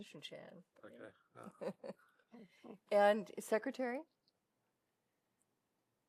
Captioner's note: laughter